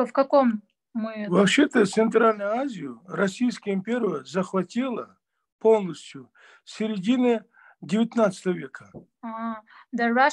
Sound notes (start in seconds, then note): 0.0 asking question in Russian to father; 5.0 in Russian